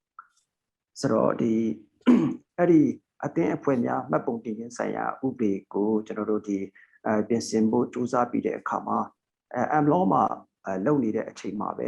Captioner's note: speaking burmese